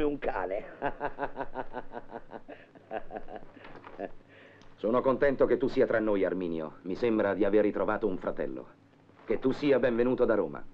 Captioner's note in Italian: Risate